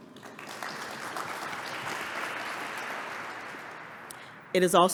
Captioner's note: applause